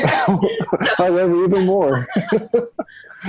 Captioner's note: both laugh